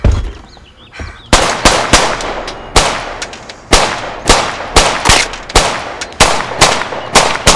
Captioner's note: guns blasting; bullets pinging